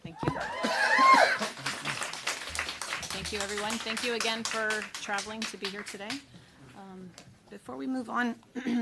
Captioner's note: applause